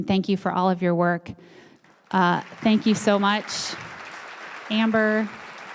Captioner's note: applause